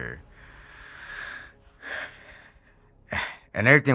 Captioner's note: exhales